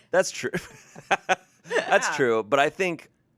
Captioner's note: laughs